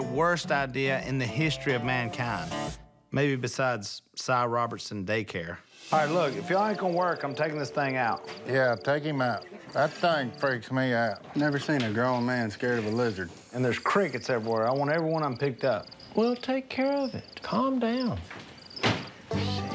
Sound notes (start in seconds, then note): 18.7 door slams